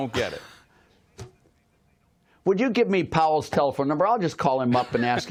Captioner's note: laughter